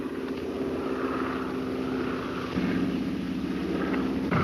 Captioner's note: airplane engine roaring